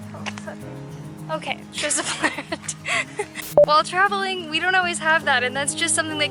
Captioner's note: laughter